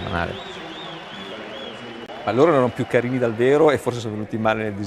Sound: applause

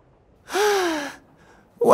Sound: sighs

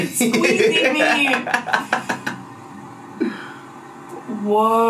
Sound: laughs loudly

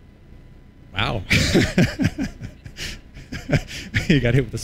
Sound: laughter

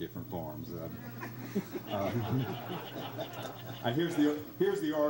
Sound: crowd laughs

